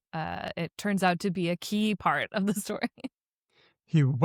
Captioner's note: chuckles